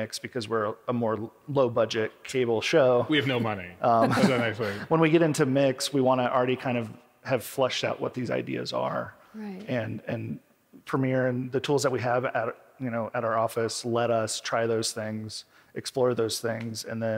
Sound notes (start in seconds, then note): 3.9 laughs